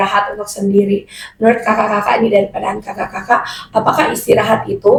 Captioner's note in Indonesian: tertawa